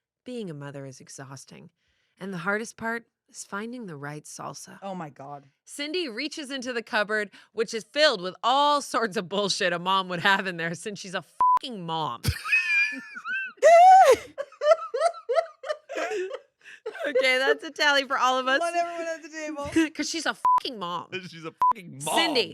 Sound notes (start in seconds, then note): 11.4 beep; 13.9 everyone laughs; 20.4 beep